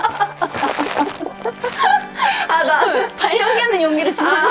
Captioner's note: hahaha!